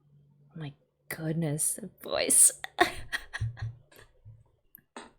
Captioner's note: laughs